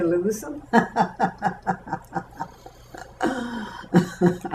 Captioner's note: laughter